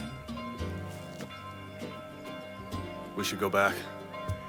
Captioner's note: bell ringing